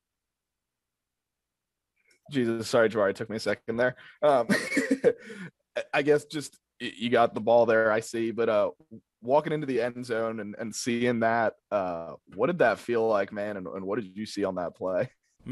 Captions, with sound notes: - Jesus, sorry, Jabari, took me a second there; aahh.. (laughs) I guess just you got the ball there. I see. But walking into the end zone and, and see in that, aahh..what did that feel like man and what did you see on that play?